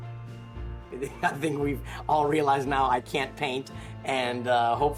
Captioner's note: laughs